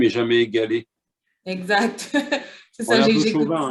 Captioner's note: laughter